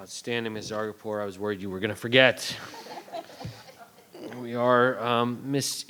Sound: all laugh

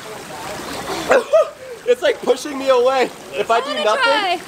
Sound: chuckling

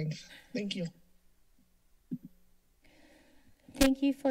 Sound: silence

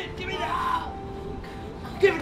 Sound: cries out

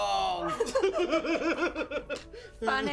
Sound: laughter

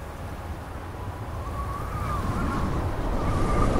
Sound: wind gushing

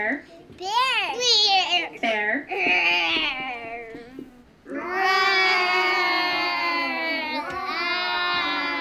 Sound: children imitate bear noise

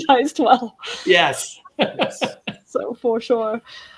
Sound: laughs

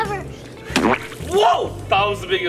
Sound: splash

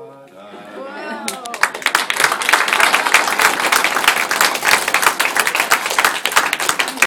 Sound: clapping

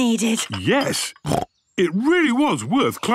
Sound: snorts

